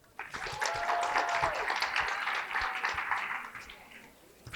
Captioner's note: applause